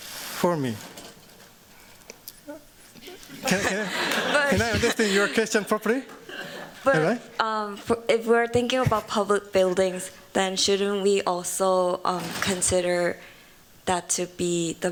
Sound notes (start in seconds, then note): 3.0 laughter